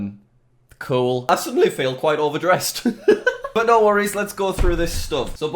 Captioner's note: laughs